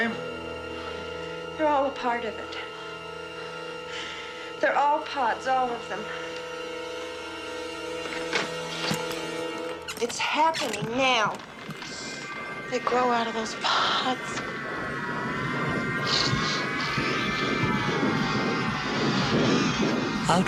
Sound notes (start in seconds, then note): 10.1 door Creaks